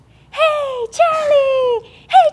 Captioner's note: high pitched voice